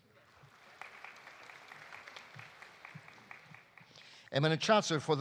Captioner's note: audience applauding